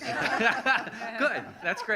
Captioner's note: laughing